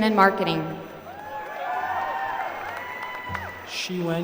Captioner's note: applause